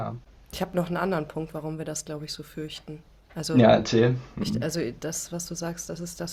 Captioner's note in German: schnauben